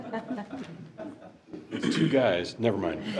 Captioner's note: board chuckling